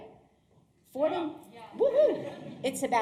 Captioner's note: audience cheering